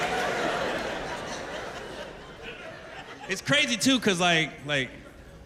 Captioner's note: laughter